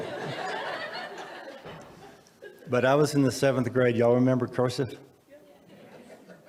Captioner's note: audience laughs